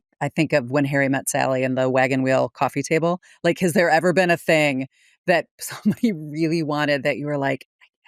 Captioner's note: laughs